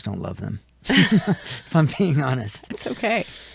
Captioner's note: chuckles